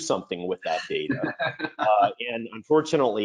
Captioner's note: laughs